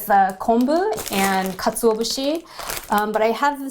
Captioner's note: speaking in Japanese language